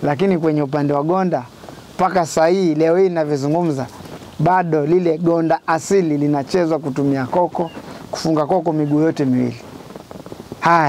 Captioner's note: mango seeds leg rattles